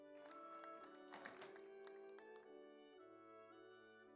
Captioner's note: audience applauds